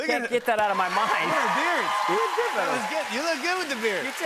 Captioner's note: cheers and applause